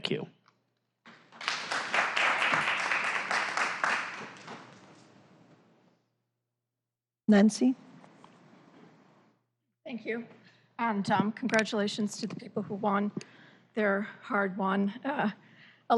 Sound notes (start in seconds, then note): 4.4 applause